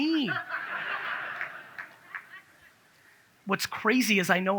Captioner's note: audience laughs